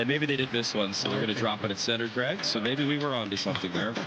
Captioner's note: laughter